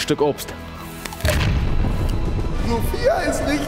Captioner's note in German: Beißgeräusch